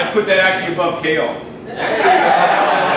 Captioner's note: laughing